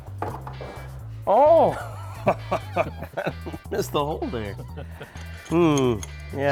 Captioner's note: laughs